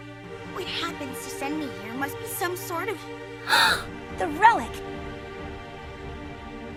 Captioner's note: gasps